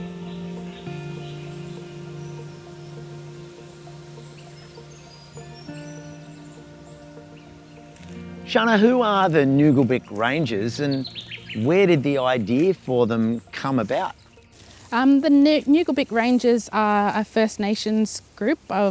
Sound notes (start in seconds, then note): 2.2 reeds and leaves rustling in the wind; 4.4 birds calling; 6.8 music fades